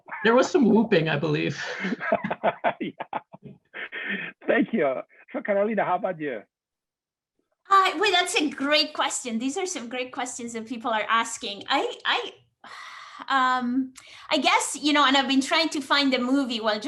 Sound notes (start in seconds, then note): 1.5 all laughing